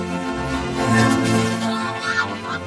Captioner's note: gasps